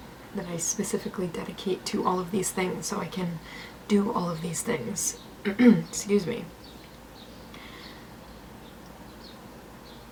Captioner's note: clears throat